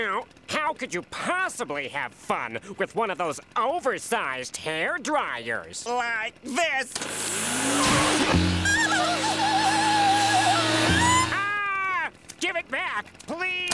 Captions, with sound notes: How could you possibly have fun with one of those oversized hair dryers? Like this. [blower running] [squeaking] AH! Give it back, please.